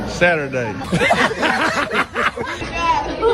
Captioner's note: laughter